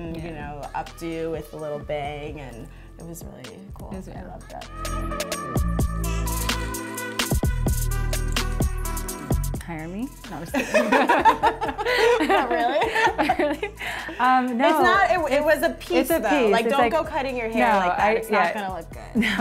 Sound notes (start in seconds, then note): 4.2 electronic music; 10.5 both laugh